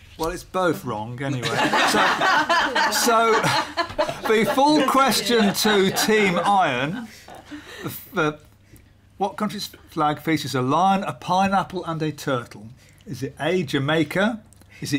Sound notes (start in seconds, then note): 1.3 laughter